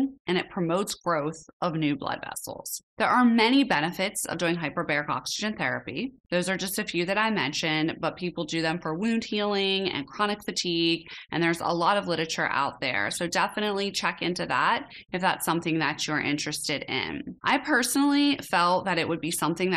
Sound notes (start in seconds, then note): none